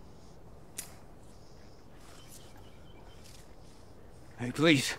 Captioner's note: pistol clicks